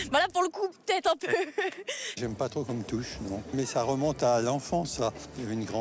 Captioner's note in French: rires